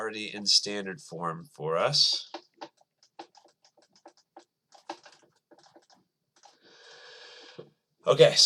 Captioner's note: writing